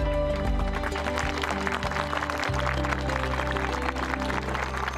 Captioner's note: applause